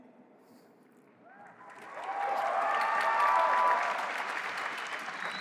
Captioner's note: cheering